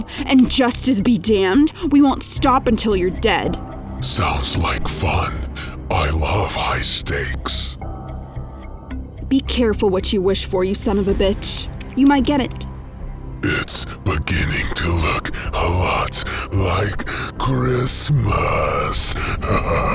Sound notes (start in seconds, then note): 18.8 laughs